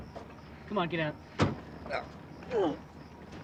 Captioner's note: grunts